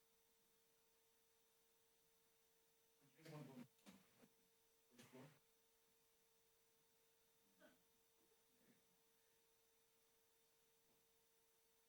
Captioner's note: background chatter